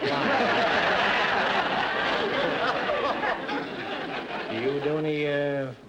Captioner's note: audience laughter